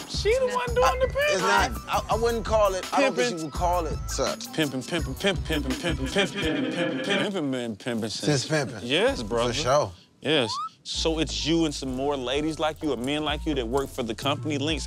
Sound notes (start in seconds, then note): 5.8 echoing